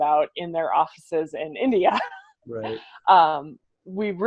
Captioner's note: laughs